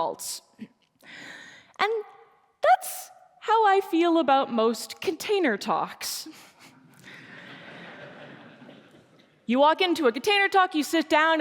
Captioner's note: laughter